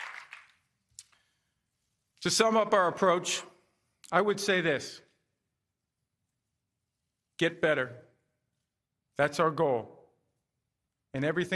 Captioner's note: applause